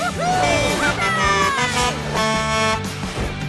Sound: honking

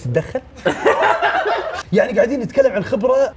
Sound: all laughing

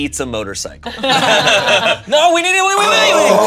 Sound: everyone laughing

